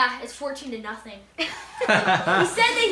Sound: laughs

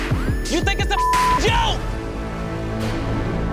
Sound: beeping

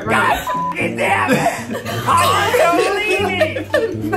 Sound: beep

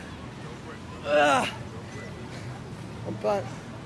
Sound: moaning

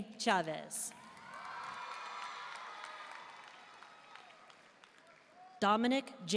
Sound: audience cheering and applauding

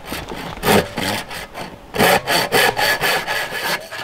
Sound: saw scraping

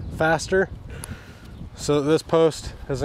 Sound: wind whooshing

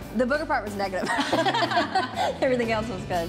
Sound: both laughing

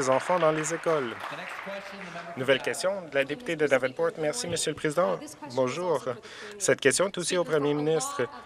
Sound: some Applause

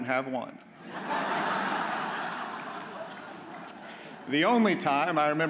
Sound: audience laughs

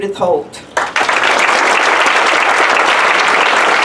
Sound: applause

